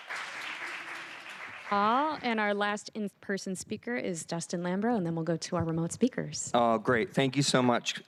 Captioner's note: applause